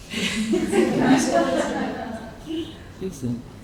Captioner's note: audience laughing